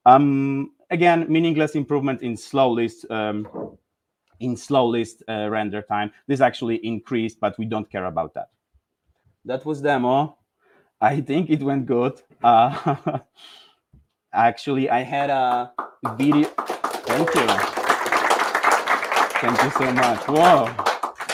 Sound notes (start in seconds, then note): 15.5 audience applauding